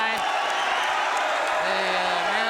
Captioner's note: crowd cheering